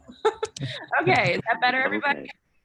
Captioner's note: laughing